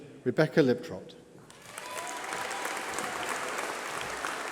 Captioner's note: applause